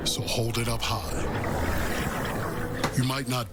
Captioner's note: beer pouring